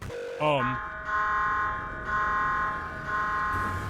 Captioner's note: alarm blaring